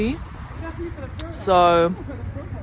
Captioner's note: city atmos